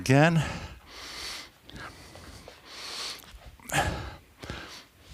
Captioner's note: breathing heavily